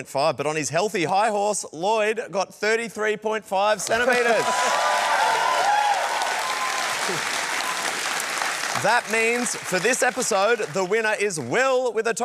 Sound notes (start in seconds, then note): 3.8 cheering, applause